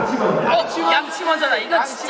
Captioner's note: all shout out brush first